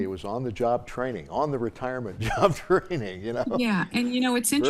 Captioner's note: chuckling